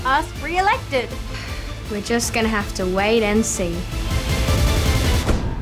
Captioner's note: sighs